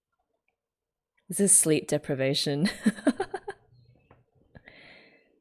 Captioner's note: laughs